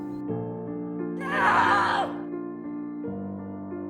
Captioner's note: June screaming